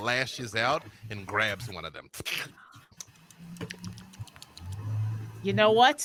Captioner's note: lips smacking